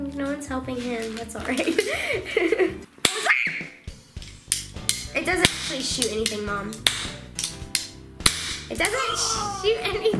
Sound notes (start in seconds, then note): 3.1 loud pop; 3.3 screaming; 8.2 loud pops